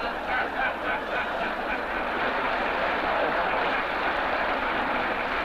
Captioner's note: audience applauding